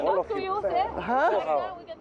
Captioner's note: overlapping chatter